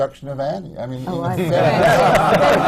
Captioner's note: laughter